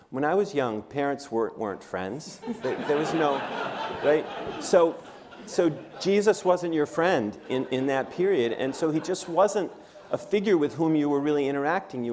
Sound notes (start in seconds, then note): 2.4 laughter